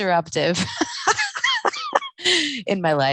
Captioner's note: laughing